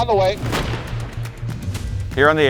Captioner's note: cannon blasts